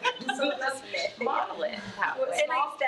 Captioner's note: attendees chattering